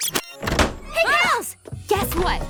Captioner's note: clip rewinds; door slams